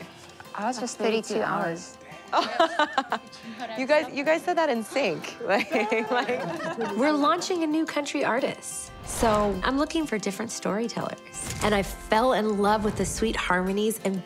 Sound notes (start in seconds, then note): 2.2 laughter